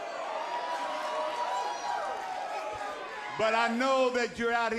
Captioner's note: crowd cheering